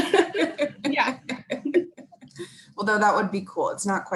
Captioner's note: laughing; laughs